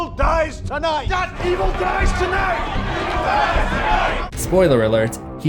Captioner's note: crowd